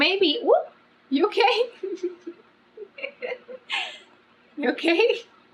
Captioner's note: laughs